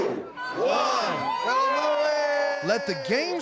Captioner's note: everyone cheering